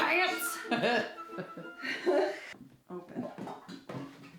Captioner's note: both laughing